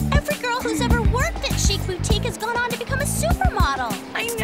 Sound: gasps

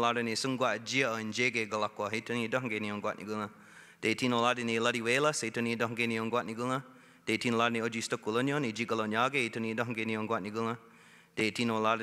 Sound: speaking Indigenous Language

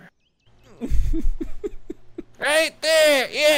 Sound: laughter

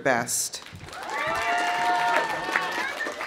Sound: audience applauding; audience cheering

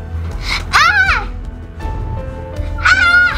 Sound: screams

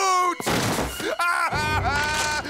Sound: crying

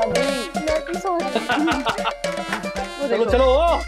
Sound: laughter

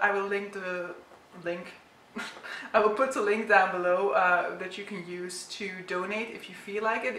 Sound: chuckles

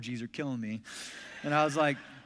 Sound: congregation laughs

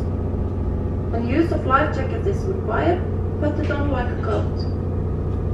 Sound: woman on the speaker in English

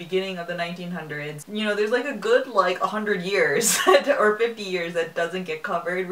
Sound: laughs

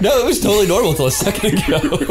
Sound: laughter

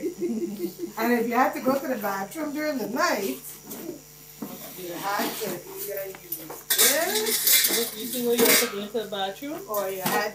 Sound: clashing metal

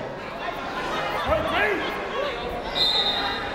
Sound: people shouting in the crowd; whistle tweeting

